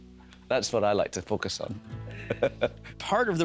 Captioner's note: chuckling